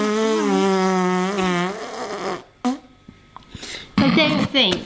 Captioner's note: blows continuous, loud raspberry; giggles